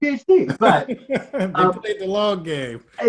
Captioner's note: laughing